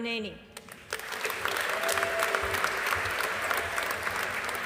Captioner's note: audience applauding